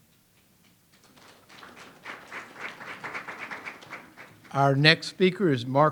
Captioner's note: audience applauds